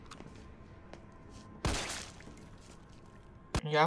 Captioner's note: shot